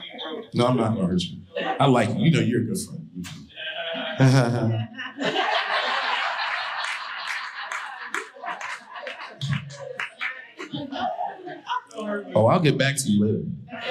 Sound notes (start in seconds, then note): 3.5 audience laughing; 3.6 laughs sarcastically